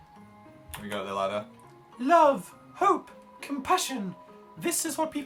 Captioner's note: high-pitched voice